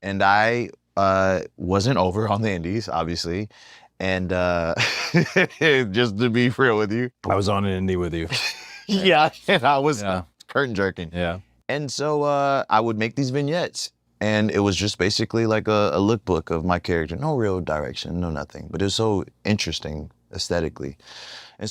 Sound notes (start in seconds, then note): 8.3 laugh